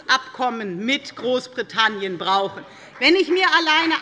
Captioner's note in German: Beifall bei der FDP